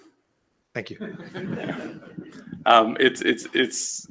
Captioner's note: laughing